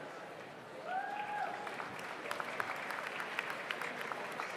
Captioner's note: audience applauds